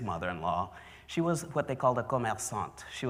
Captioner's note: french